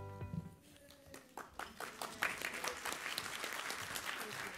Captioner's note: applause